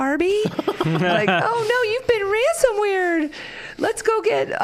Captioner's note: all laughing